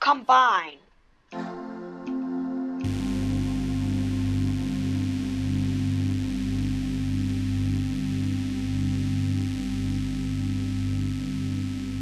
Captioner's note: chorded sound effect, helium sound effect, and group sound effect